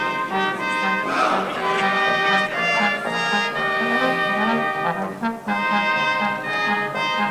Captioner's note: crowd chattering indistinct